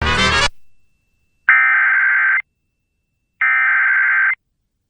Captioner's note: SAME header tones